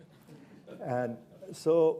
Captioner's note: chuckles